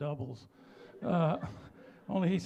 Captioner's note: laughter